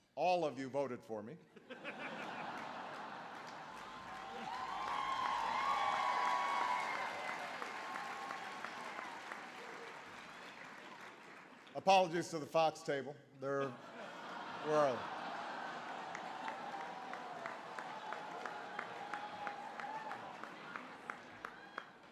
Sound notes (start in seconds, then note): 4.8 laughter, applause; 13.6 laughter